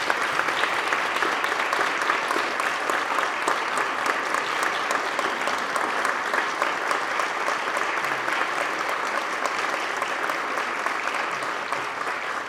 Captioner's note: applause